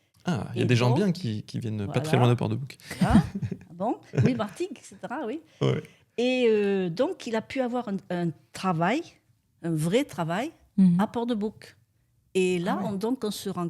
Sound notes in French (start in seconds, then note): 4.1 rires